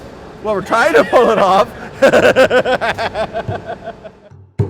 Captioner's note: laughs